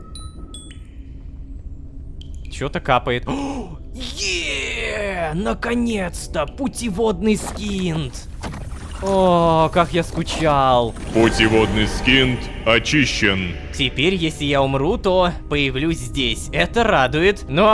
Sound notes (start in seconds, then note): 11.0 notification